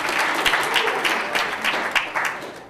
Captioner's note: applause